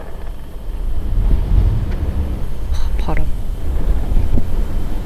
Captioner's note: звук ветра